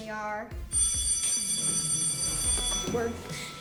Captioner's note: school bell ringing